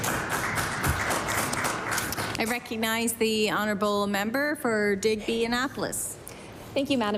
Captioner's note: applause